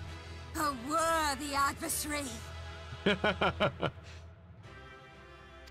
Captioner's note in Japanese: 笑い